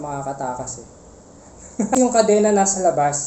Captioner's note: defeated chuckle